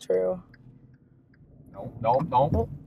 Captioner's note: turn signal clicking